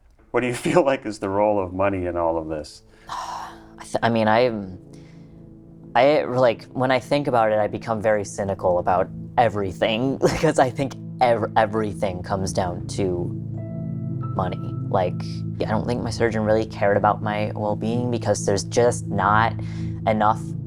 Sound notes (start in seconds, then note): 2.8 sighs